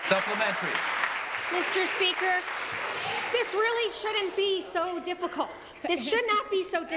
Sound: applause

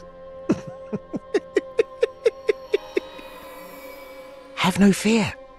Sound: laughing

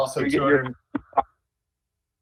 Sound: ~audio distortion~

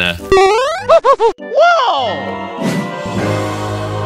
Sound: boing

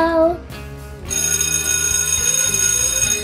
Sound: ring

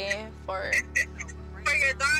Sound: laughs

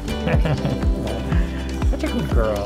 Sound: laughter

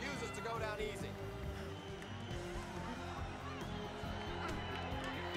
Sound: audience cheering

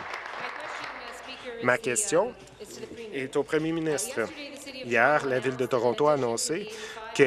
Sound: applause

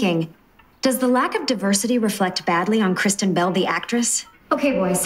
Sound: inner monologue

